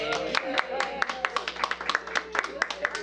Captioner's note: applause